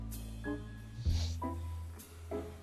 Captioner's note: sniffles